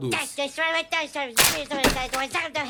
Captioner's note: funny noises